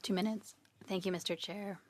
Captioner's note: speaking French